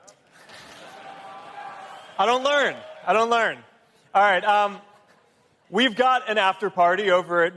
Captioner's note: applause